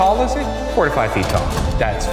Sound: projector clicks

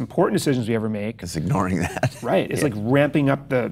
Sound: Chase laughs

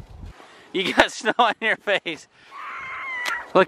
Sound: laughing

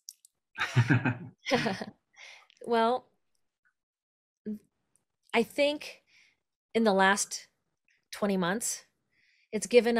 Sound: laughter

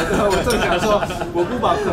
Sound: laughing

